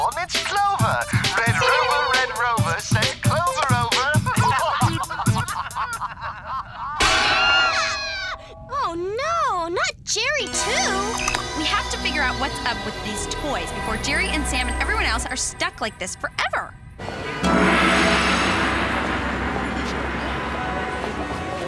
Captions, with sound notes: Oh, look, everyone. It's Clover. Red rover, red rover, send Clover over. [laughter] [screaming] Oh no! Not Jerry, too! We have to figure out what's up with these toys before Jerry, and Sam, and everyone else are stuck like this forever. [cars honking]